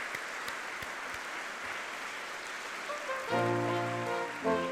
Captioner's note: audience clapping